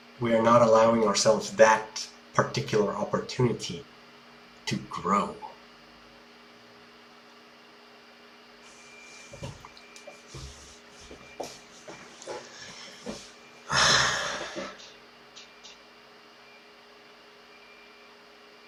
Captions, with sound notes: we are not allowing ourselves that particular opportunity to grow. [sigh]